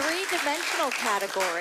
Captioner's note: applause